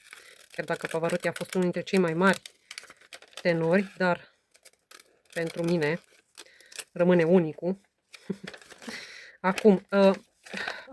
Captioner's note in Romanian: râsete